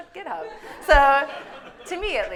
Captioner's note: audience laughing